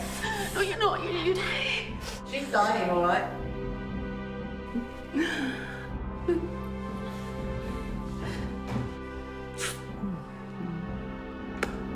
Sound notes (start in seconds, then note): 6.2 Faye laughing; 8.0 dramatic music